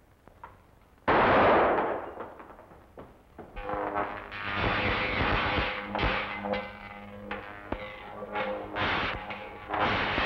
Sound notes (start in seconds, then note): 1.1 gun fires; 3.6 electricity zapping